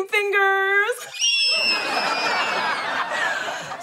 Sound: squealing

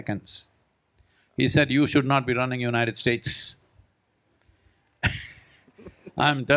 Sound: laughs

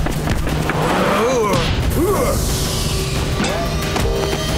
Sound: grunting

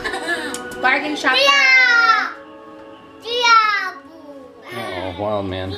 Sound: yelling

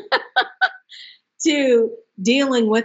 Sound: laughs

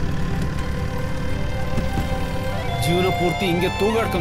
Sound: car Sound

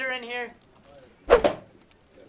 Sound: whoosh

